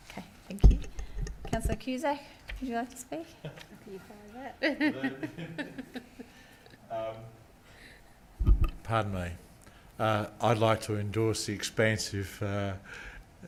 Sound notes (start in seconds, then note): 7.4 chuckling